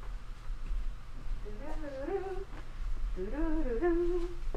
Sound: humming

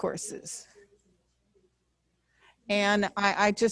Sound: voice muffled

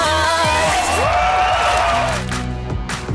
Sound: cheering

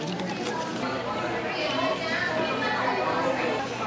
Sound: tasting

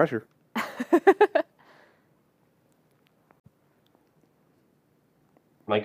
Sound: laughter

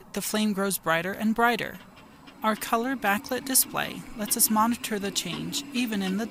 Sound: sound of increasing gas flow inside the pumpkin

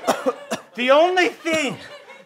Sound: coughing

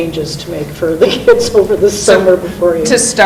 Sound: laughs

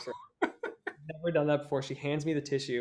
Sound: laughs

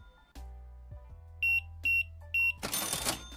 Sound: beeping; beeping

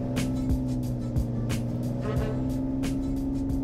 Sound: engine noise

